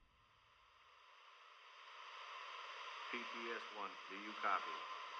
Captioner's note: radio static